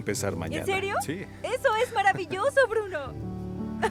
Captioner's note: Bruno ríe